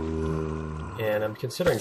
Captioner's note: zombie groaning